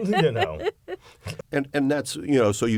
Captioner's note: laughter